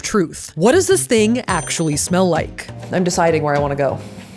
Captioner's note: bell ringing